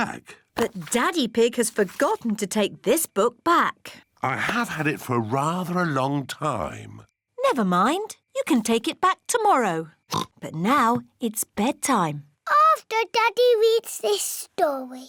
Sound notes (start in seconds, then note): 10.1 oinks